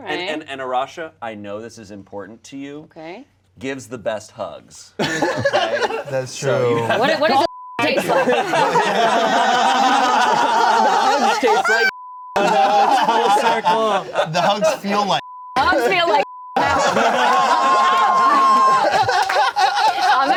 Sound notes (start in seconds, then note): 7.2 beep; 7.8 everyone laughing; 11.8 beep; 15.2 beep; 16.6 everyone laughing